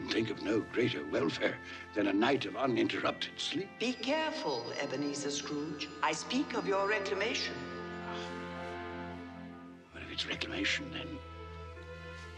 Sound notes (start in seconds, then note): none